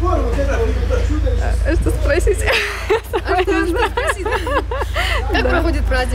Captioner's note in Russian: смеётся